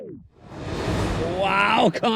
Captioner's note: upbeat music continues; graphics whooshing